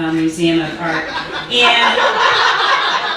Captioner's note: audience laughing